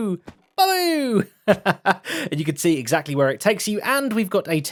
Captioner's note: laughs